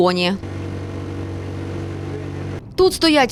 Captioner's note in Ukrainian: Звук двигуна